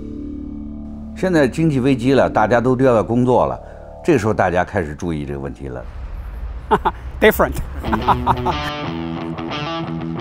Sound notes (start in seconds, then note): 1.4 speaks in Chinese; 7.7 laughs